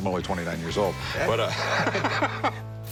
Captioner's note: laughing